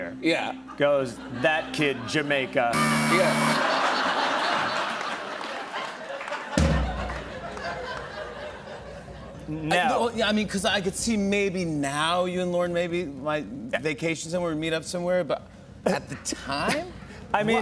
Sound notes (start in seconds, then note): 2.7 buzzer; 3.4 laughter